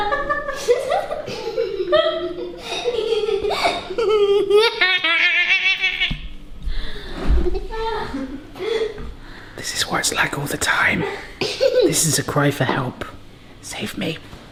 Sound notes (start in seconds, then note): 0.0 mom and sister laugh; 4.2 laughs manically